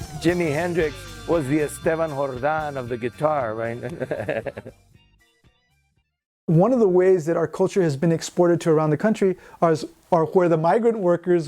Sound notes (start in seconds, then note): 3.8 chuckling